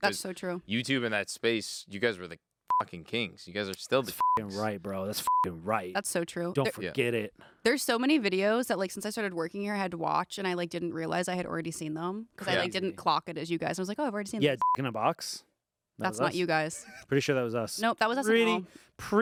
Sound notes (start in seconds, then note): 4.1 beep; 14.6 beep